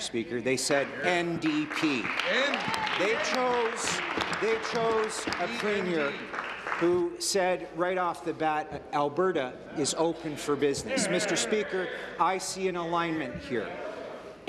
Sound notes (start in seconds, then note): 7.4 applause